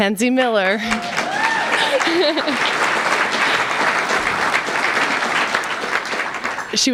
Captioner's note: applause